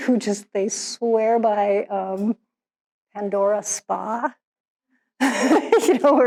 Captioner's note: laughs